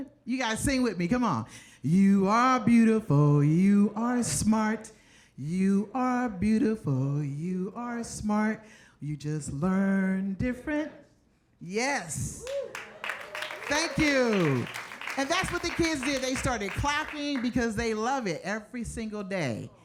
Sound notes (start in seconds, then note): 12.4 audience cheers and applauds